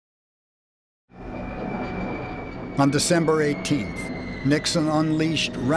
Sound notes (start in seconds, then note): 1.2 jet engines roaring